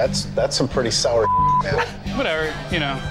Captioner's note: beep